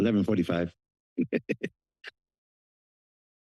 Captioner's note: laughter